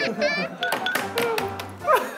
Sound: tapping the desk

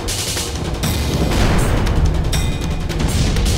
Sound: thunder and lightening

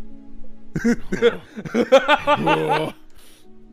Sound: nervous laughter

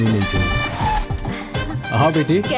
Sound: brakes screeching

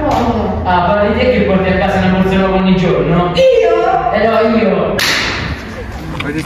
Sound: slap

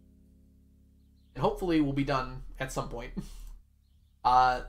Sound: chuckles

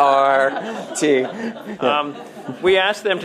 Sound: laughter

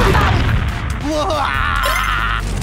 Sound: laughing

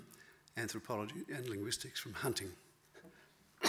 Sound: coughs

